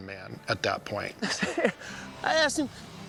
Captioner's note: laughs